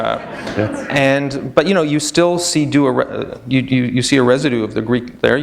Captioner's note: laughter